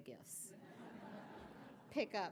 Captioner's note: audience laughing